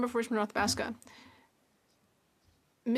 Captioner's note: speaking French